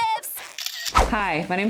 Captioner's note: camera shutter click